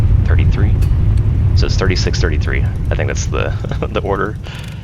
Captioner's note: laughs